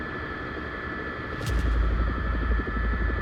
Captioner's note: helicopter